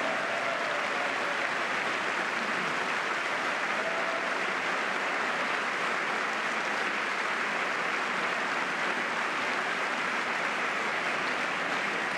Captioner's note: applause